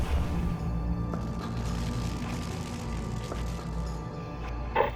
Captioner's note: fire crackling